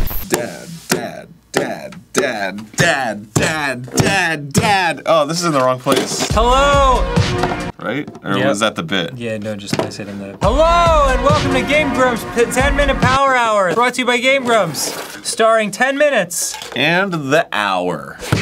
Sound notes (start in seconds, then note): 0.1 chanting; 2.6 chanting intensifies